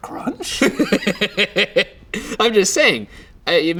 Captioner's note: laughing